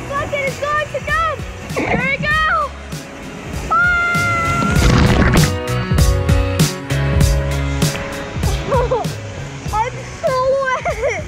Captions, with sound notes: (screaming) Here I go! (splashing and screaming) - Oh I'm so wet, that was crazy!